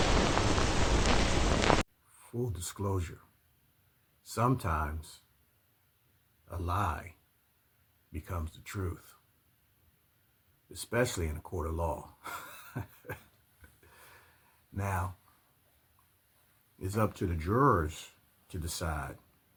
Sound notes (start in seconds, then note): 13.8 laughs